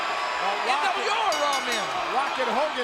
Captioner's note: bell ringing